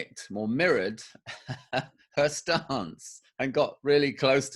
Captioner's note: laughs